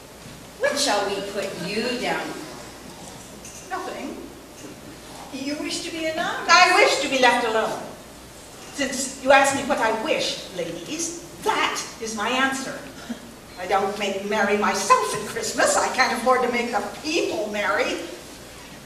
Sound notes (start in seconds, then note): none